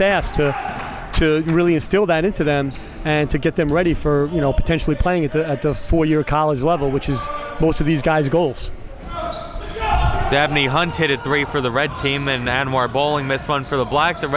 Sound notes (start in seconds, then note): 9.7 yelling